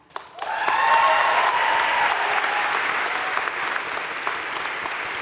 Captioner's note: crowd cheering and applauding